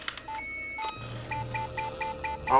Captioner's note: beeping faster